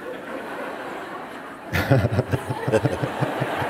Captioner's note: laughter